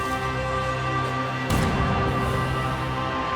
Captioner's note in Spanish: Disparo